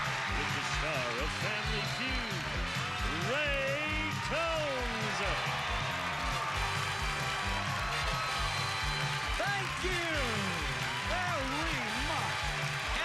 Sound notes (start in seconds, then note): 7.4 cheers and applause